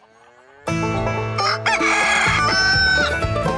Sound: rooster crowing

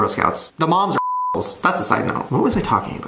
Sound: beep

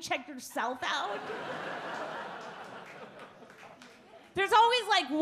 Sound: audience laugh

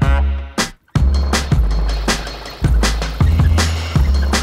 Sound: wheels squeaking

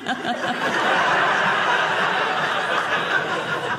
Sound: audience laughing

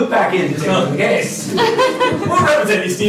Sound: laughter

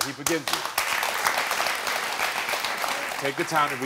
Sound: audience applauding

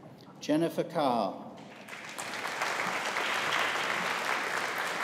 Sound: audience applauding

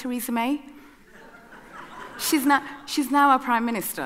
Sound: audience laughing

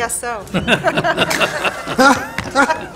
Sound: all chuckling

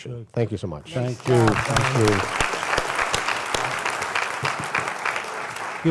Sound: applause

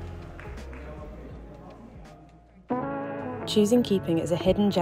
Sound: indistinct chattering

